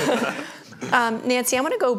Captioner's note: laughs